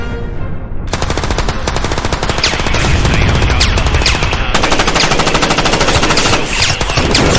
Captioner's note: guns firing; explosion booming